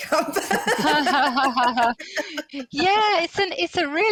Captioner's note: laughter